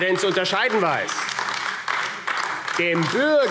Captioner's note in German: Beifall AfD